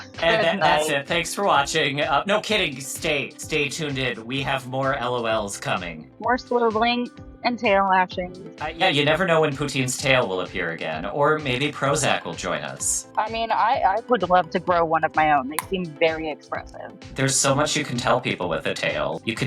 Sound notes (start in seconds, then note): 16.6 text clacking